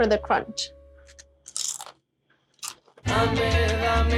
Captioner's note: corn chip crunches